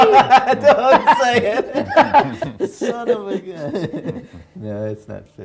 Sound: laughter

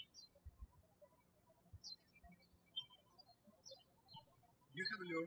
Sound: birds chirping

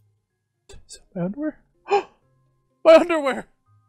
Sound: gasps

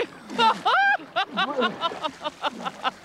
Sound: laughs

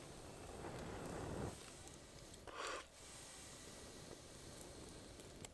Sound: exhaling deeply

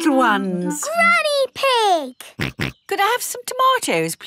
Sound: snorts

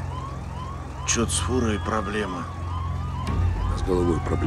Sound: alarm sound

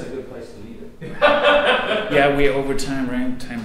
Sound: audience member laughs

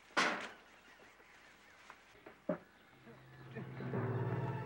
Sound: Pop laughs; suspenseful music

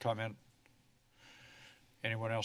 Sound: silence

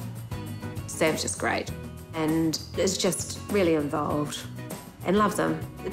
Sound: none

